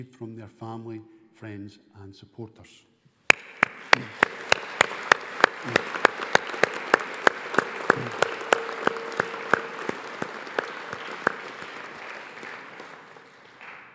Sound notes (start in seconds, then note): 3.7 all applauding